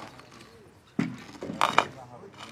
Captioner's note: creaks